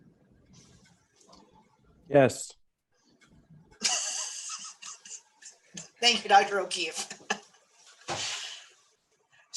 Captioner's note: laughter